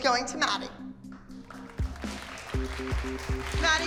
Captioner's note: clapping